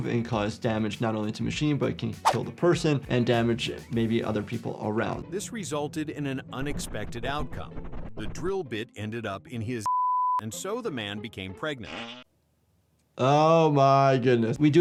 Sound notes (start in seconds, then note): 9.8 beep; 11.8 patient farting